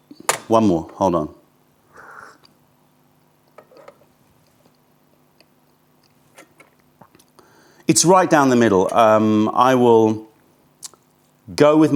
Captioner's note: sips tea